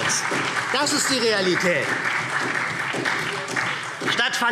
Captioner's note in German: Beifall SPD und vereinzelt Freie Demokraten